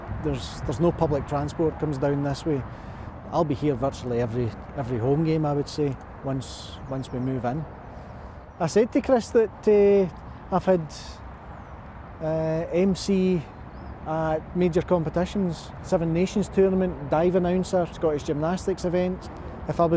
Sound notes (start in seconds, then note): none